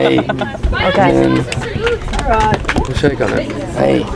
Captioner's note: people chattering